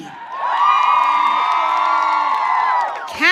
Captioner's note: audience cheering